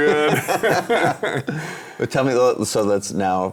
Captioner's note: laughing